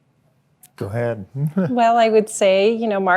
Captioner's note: chuckles